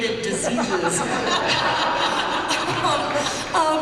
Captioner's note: laughter